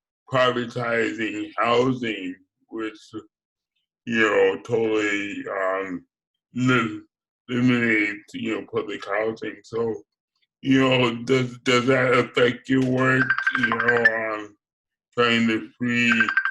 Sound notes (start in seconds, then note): 13.0 phone rings